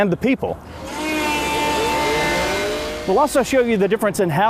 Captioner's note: mechanical grinding